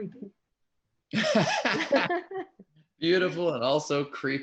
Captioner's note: laughing